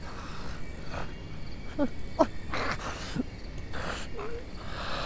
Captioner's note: David sobbing